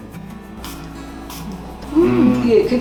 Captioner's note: spraying